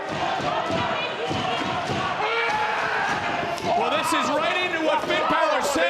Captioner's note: cheering